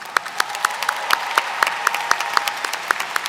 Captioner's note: applause